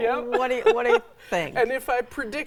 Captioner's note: laughs